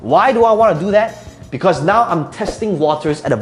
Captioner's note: air whooshing